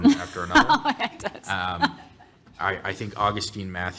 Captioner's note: laughs